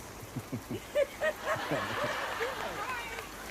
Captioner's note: laughter